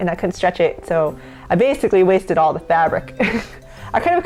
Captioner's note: laughs